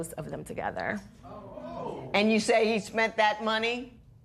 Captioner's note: spectators exclaim